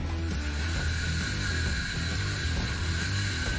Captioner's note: light rock music; saw whirring; hammer banging